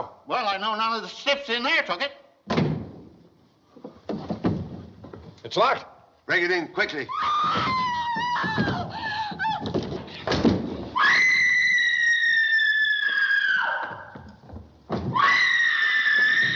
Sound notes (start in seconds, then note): 7.1 Mrs. Pendleton Screaming; 10.9 screaming